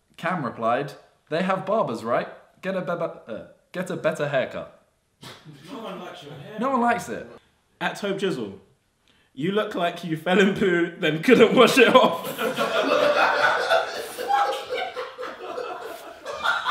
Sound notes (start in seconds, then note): 13.3 audience laughs